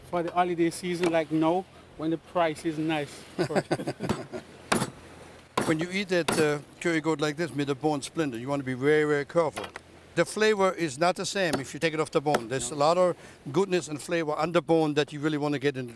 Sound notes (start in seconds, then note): 0.0 chopping; 3.3 laughter; 4.7 chopping